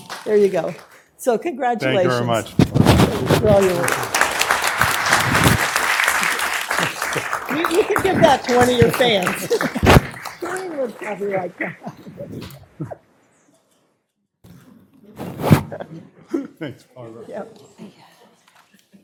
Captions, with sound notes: GOOD TO SEE YOU AROUND THE NEIGHBORHOOD. NEIGHBORHOOD. >> FAA IN THE BACKGROUND. >> FAA IN THE BACKGROUND. YAY FAA. YAY FAA. >> SO CONGRATULATIONS. >> SO CONGRATULATIONS. >> THANK YOU VERY MUCH. >> THANK YOU VERY MUCH. [ APPLAUSE ] [ APPLAUSE ] >> YOU CAN GIVE THAT TO ONE OF >> YOU CAN GIVE THAT TO ONE OF YOUR FANS.